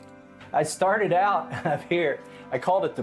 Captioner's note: chuckles